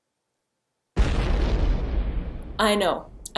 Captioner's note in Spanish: Boom